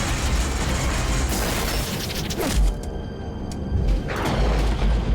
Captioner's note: dramatic music; engines sputtering; thunder rumbles